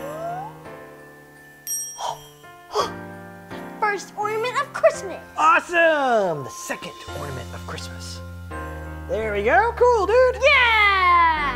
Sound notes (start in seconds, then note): 1.2 bell ringing; 2.7 gasps